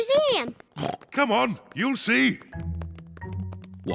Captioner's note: oinks